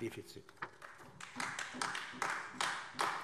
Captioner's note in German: Beifall AfD